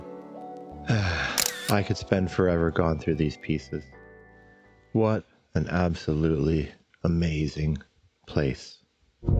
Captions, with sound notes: (Sigh) I could spend forever gone through these pieces. What an absolutely amazing place.